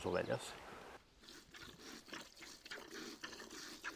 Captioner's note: milk splashing in the bucket